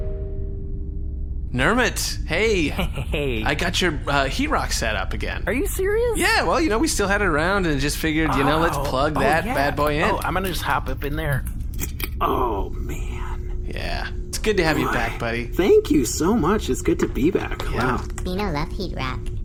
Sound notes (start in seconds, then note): 2.5 small laugh; 9.9 mechanical sounds as the rock is plugged in